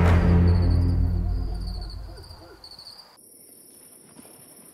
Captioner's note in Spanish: Canto de grillos